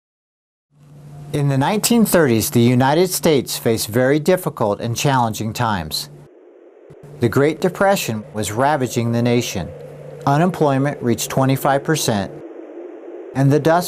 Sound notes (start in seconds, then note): 5.4 wind rustling